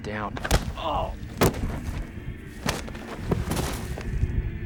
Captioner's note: gunshot